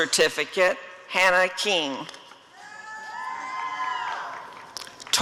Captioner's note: applause and cheering